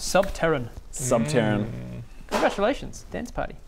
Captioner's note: intrigued noises